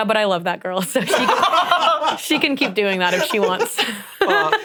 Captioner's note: laughs